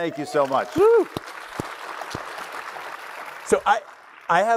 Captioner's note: applause